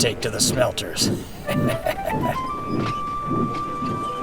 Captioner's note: evil laugh